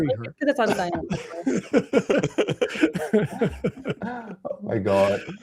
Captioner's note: laughter